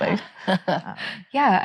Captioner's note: chuckles